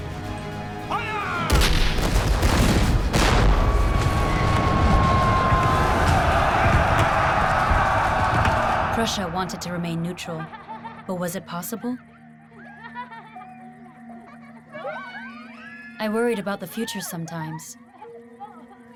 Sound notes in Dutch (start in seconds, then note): 1.5 kanon ontploft; 3.8 soldaten blèren